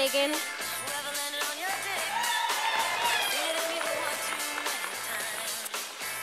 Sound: sound of applauce from audience

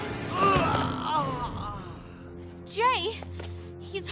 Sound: groaning

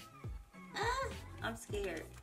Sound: squeals

